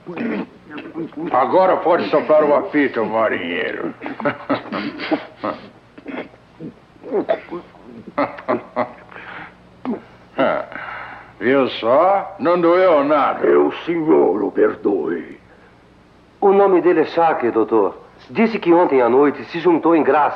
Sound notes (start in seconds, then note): 3.4 gagging; 7.0 chuckles